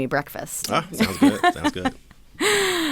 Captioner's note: laughs